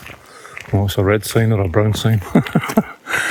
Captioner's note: laughter